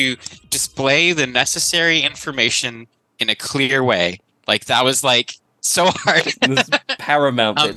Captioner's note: laughs